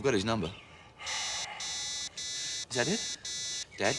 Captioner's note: beeping continues